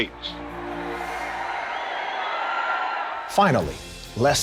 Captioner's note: crowd cheering